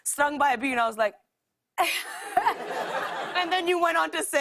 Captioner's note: laughter